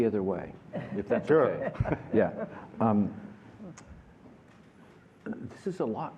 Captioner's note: laughter